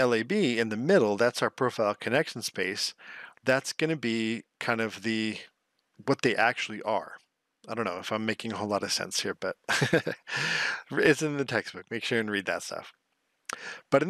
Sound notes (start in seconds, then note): 9.7 laughs